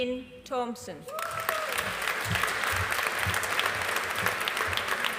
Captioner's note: audience applauding